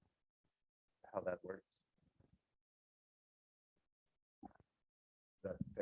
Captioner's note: microphone Interference